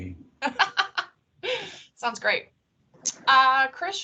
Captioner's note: laughing